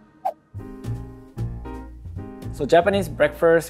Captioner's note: upbeat music; light jazz; slide whooshes